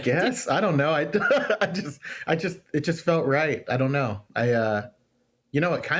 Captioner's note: laughs